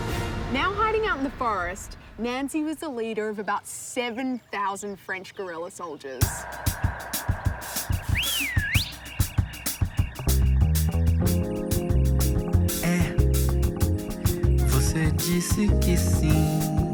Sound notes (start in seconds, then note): 7.8 whistle